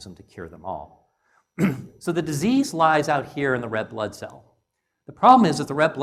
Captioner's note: cough